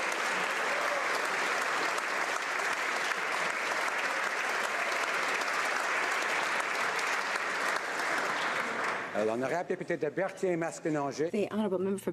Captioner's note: applause